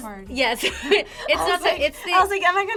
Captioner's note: laughs